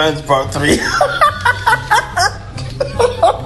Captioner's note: laughs